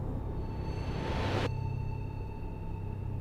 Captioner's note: eerie horror sound